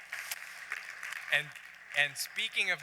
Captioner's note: applause